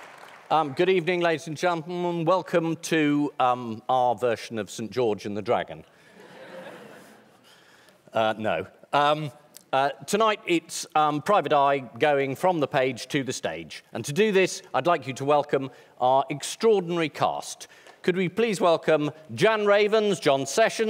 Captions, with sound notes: Good evening, ladies and gentlemen, and welcome to our version of St George and the Dragon. (AUDIENCE LAUGHS) Er...no. Tonight it's Private Eye going from the page to the stage. And to do this, I'd like you to welcome our extraordinary cast. Could we please welcome Jan Ravens, John Sessions,